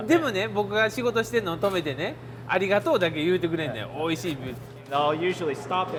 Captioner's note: more in Japanese